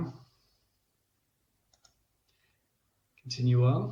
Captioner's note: clicks mouse